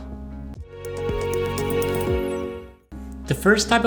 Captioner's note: bright sound